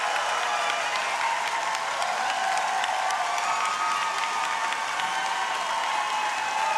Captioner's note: audience cheering continues